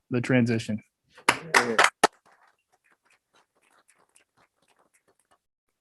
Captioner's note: all clapping